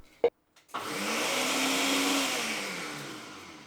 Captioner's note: blender whirring